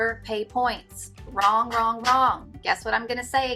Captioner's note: clapping